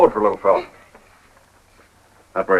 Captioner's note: groans